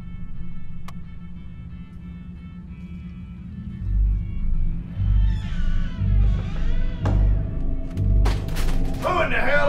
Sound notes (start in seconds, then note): 4.8 door squeaks